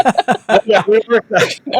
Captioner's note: laughing